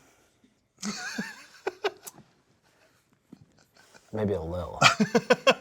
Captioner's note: laughs